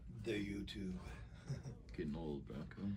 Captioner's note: laughs